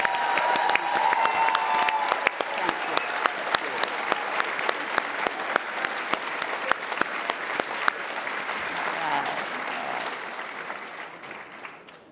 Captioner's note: applause